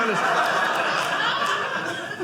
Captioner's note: audience laughing